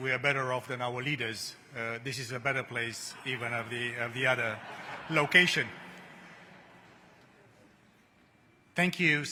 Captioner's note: laughter